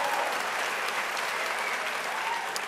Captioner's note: applause